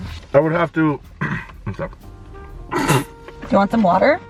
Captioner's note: clears throat; laughs